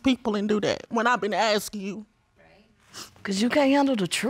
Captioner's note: sniffs